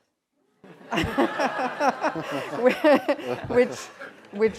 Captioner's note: laughter